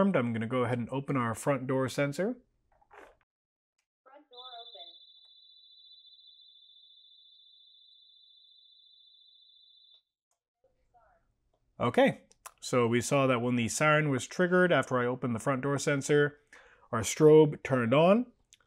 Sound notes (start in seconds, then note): 4.3 siren